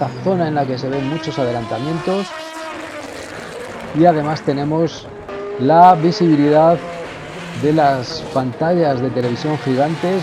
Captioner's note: motors